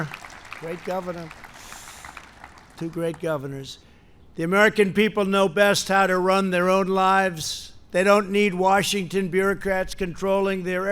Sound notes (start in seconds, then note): 0.0 applause